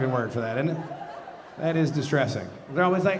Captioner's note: audience laughing